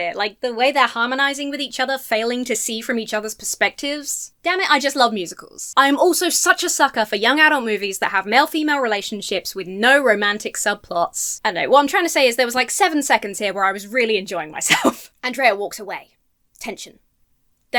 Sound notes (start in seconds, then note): 14.6 laughs